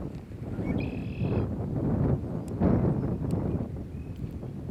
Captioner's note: wind blowing